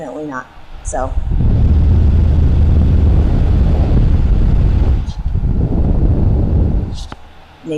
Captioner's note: wind noises